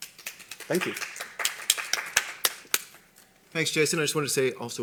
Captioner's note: applause